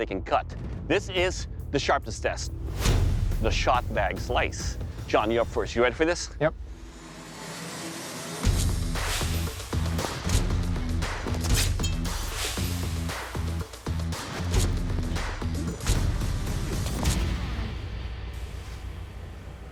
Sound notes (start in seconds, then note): 7.0 impact sounds